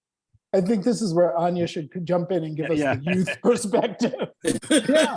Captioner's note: laughs